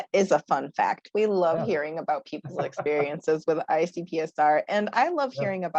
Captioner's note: laughter